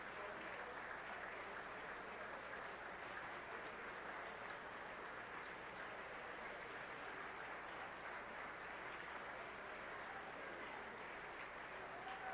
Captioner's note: applause